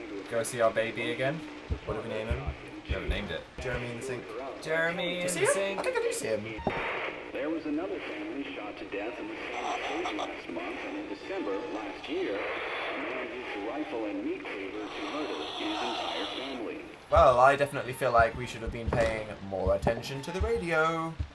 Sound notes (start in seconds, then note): 10.0 static